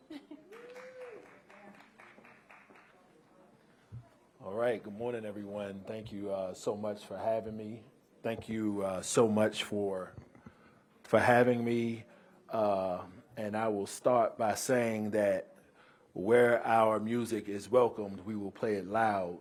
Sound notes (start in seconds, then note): 0.4 applause